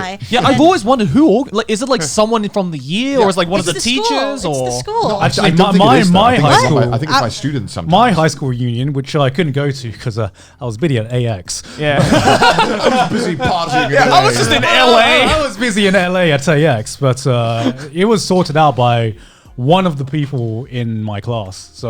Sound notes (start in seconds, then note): 11.8 all laughing